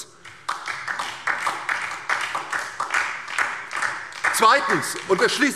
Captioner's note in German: Beifall DIE LINKE und vereinzelt SPD